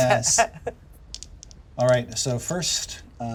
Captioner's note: dice clack